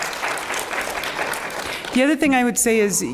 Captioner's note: applause